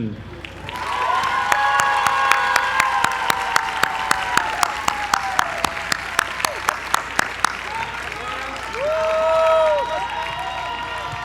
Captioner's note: applause